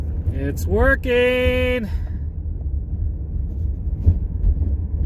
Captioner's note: car noise